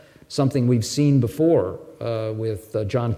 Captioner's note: none